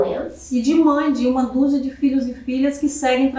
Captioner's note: speaking portuguese